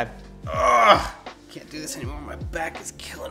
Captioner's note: groans